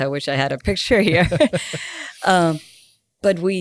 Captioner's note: both laughing